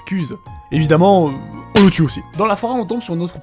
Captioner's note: h slap